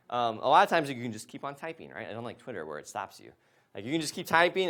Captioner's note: none